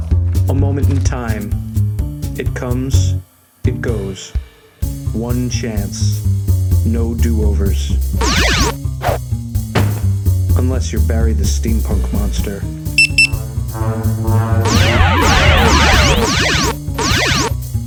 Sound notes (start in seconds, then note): 9.8 zap! thud!; 12.8 beep beep; 13.8 rising danger noise; 14.6 zapping